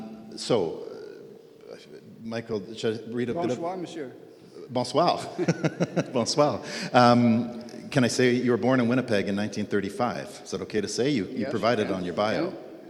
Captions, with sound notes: So Bonsoir Monsieur. Bonsoir. (laughs) Bonsoir. Can I say you were born in Winnipeg in 1935 is that okay to say you you provide it on your bio?